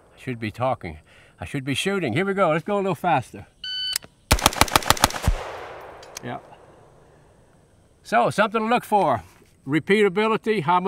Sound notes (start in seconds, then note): 3.7 timer beeps; 4.3 rifle firing